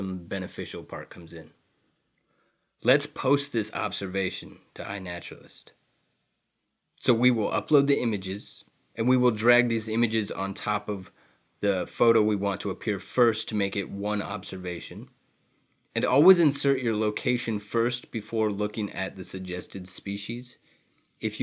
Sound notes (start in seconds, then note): none